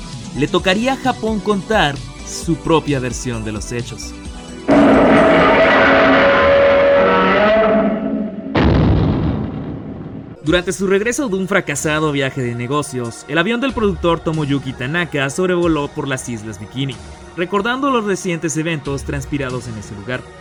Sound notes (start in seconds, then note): 4.7 Godzilla's roar